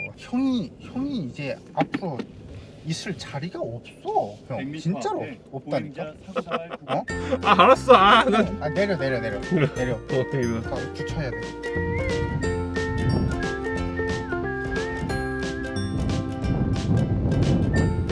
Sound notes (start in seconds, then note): 6.2 laughter